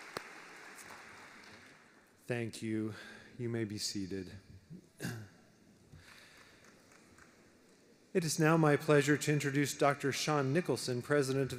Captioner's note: applause